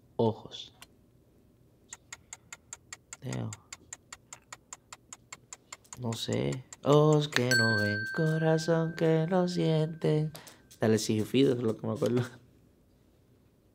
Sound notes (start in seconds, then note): 0.0 speaking in foreign language; 2.0 timer ticking; 6.2 speaking in foreign language; 7.4 positive beep; 10.0 singing in foreign language